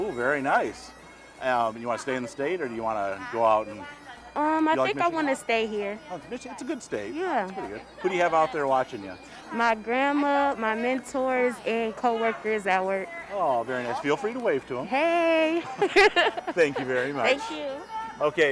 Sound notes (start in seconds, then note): 15.4 laughing